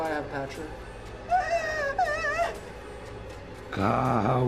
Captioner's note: Sara sobbing; Patrick speaking in foreign language